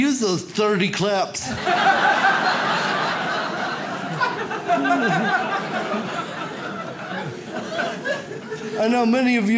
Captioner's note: audience laughs